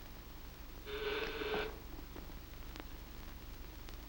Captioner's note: doorbell rings